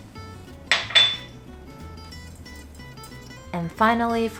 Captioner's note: glass clinking